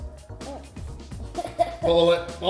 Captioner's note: laughs